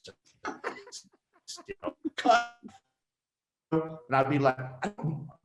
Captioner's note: laughing